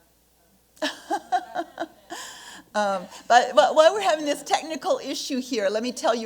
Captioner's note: laughs